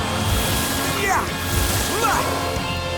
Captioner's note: grunting